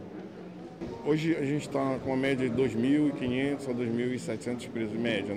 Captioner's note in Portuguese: Voz masculina